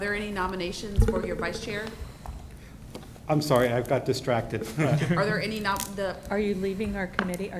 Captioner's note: laughs